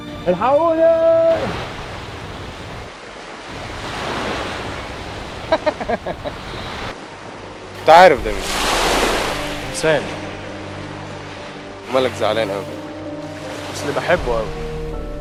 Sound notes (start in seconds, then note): 5.5 giggles